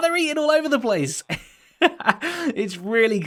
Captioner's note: laughs